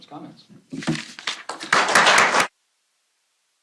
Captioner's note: applause